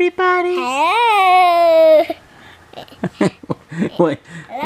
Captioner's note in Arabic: يضحك